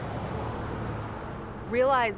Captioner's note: engine accelerating